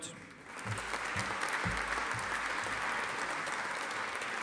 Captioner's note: audience applauding